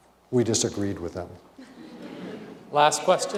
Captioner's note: laughter